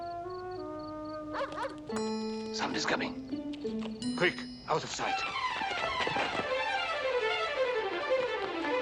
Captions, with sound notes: - [dog barking] - Somebody's coming! Quick! Out of sight.